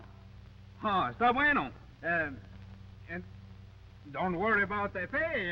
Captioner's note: Pablo speaking in foreign language